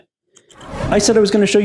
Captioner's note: whooshing